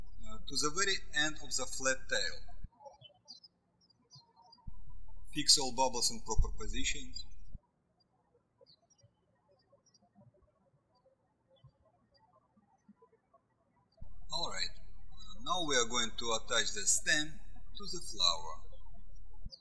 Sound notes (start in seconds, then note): 3.2 birds chirping; 8.4 birds chirping